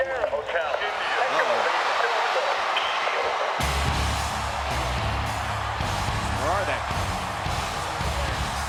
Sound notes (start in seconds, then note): 0.1 audience cheers; 3.6 dramatic music